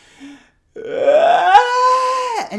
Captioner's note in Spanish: Sonido de llanto